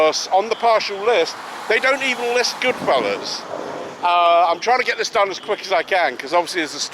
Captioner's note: thunder roars